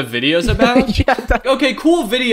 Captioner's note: laughing